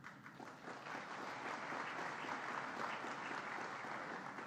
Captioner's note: applause